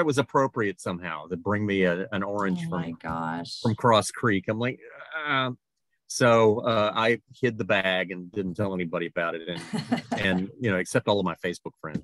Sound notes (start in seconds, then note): 4.7 groans